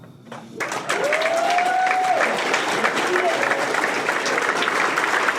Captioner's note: audience cheers and applauds